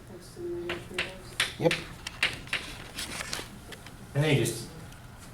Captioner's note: voiceover; chalk clicking on board